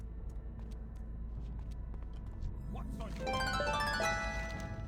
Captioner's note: phone ringing